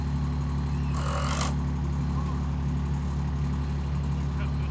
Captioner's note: screw gun spinning